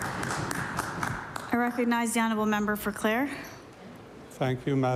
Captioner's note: applause